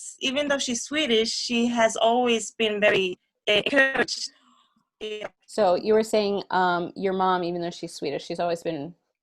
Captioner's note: sound adjustment